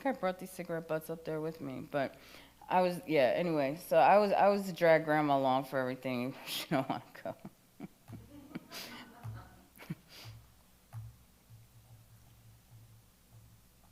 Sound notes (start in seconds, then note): 7.7 chuckles; 7.8 attendee laughs